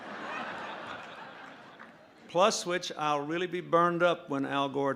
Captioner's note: laughter